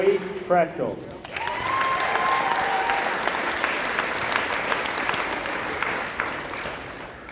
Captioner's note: applause